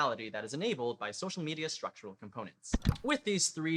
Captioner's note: click